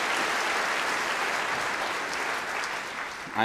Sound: applause

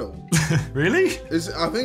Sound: scoffing

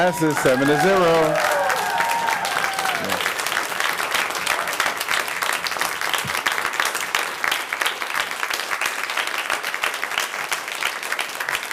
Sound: applause

